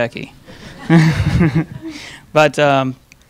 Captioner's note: laughing